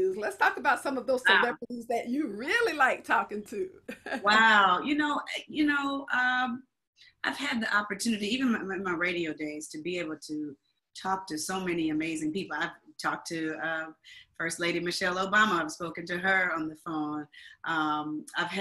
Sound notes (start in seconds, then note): 3.8 laughs